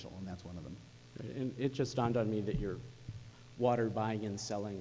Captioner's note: voiceover